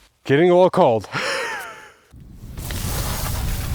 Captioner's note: laughs